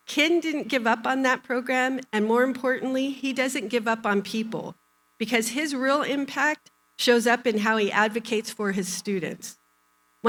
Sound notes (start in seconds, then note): none